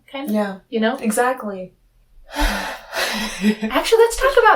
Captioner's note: sigh